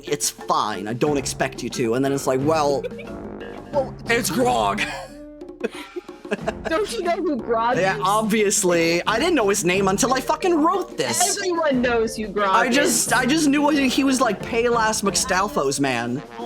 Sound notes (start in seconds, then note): 2.6 giggling; 5.6 laughing